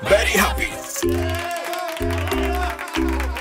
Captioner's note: cheers and applause